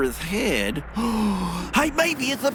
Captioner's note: gasp